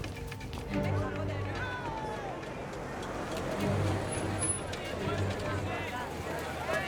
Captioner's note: engine hums